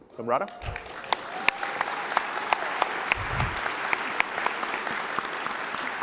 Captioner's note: applause